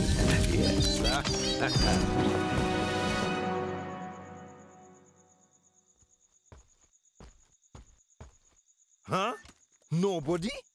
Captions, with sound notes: Yes! [laughing] [footsteps approaching] Huh?... Nobody!